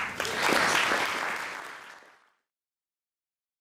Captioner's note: applause